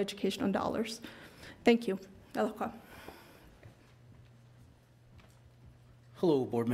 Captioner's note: speaking in foreign language